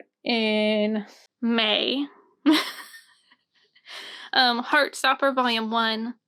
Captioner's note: chuckle